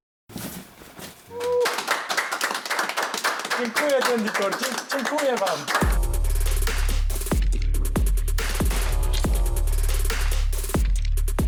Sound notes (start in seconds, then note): 1.4 clapping; 5.5 electronic beat